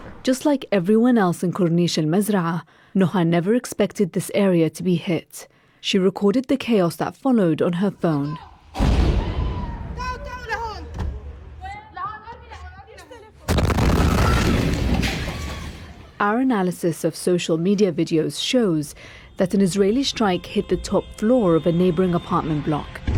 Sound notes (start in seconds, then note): 13.4 explosion; 15.0 screaming